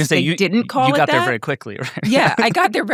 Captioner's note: laughs